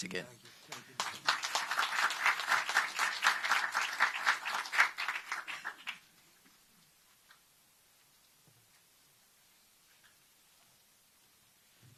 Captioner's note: applause